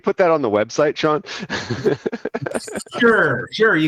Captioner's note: laughing